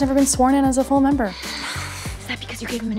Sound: sighs

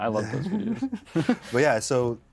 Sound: both giggle

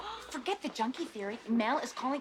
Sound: gasps

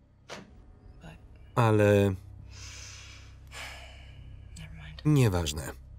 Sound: sighs

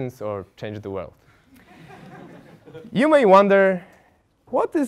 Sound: laugh

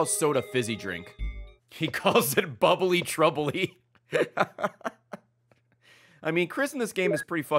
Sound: laughs

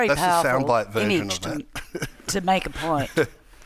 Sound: chuckles

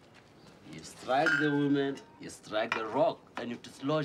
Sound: in English

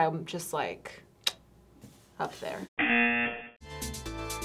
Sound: clicks tongue; buzzer; soft upbeat music

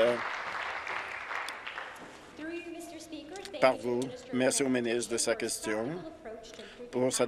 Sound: applause

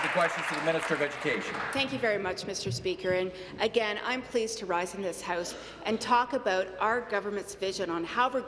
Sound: some Applause

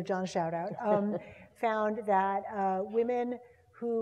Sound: laugh

